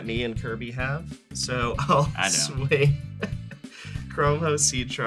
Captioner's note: chuckles